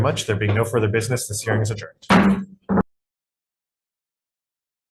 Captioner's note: gavel bangs